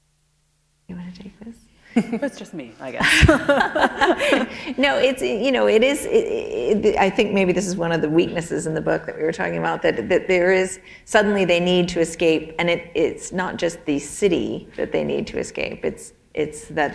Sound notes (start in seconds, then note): 3.0 laughter